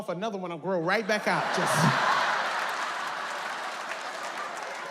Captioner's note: audience laughs